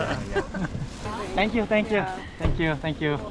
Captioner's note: laughs